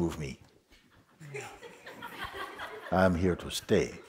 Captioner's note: laughter